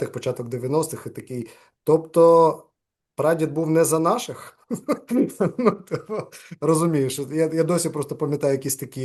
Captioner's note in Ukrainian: сміється